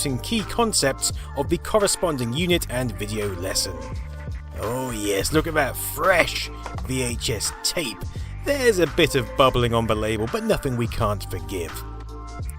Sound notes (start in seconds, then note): none